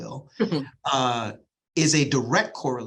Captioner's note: chuckles